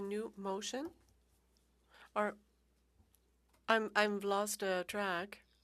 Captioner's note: speaking French